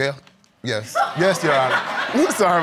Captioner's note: audience laughs